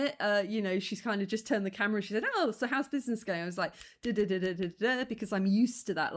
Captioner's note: clicking fingers